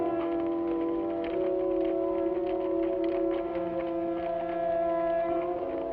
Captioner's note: suspenseful music; horse hooves patter